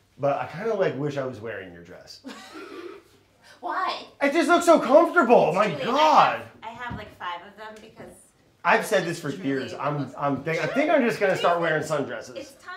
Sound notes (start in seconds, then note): 2.3 laughing